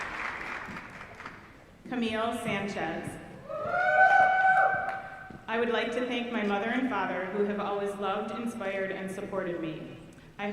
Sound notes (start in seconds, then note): 3.5 audience cheering